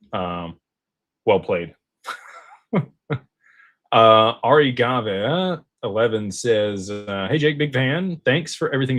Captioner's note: laughter